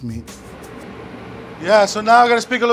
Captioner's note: fan running